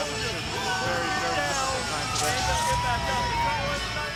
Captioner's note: Eric speaks faintly; upbeat music